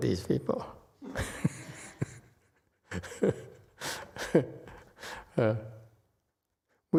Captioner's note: laughs